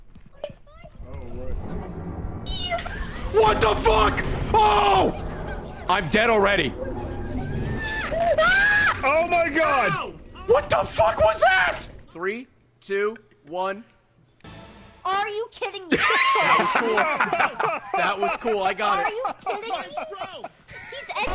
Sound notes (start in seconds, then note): 7.4 screams; 15.9 laughs